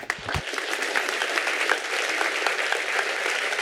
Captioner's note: applause